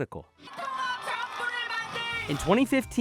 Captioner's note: yells in a foreign language